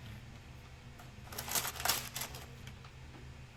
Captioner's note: paper crinkling